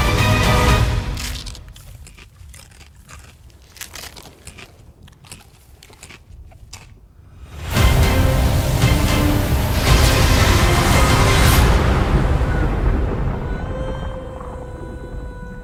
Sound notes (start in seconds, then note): 0.7 character munching; 0.8 popcorn crunching; 7.5 dramatic music; 7.6 electricity buzzing